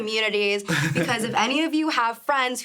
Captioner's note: chuckling